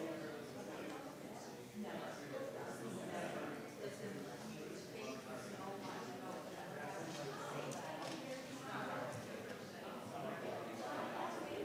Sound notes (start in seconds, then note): 5.9 crowd chattering